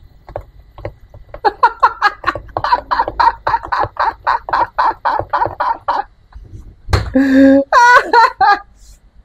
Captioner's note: laughs